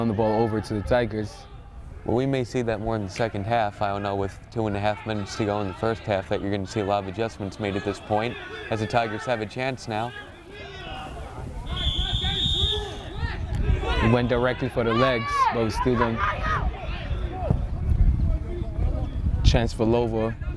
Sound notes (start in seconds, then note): 11.6 whistle